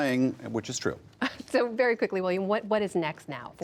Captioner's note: laughter